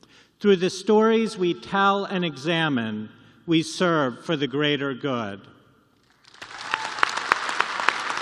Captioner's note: applause